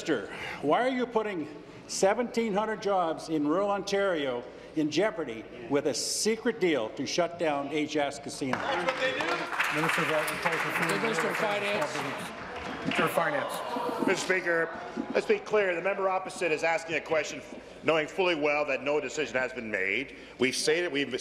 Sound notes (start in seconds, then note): 12.4 applause